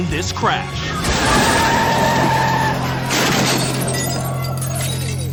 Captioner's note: tires screech